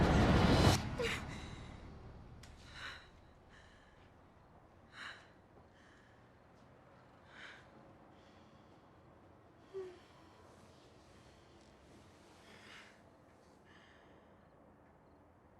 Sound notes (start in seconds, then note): 1.1 Tara gasping; 5.0 Tara breathing heavily